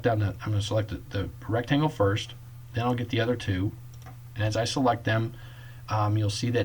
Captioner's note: click